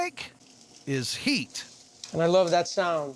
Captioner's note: sizzling sound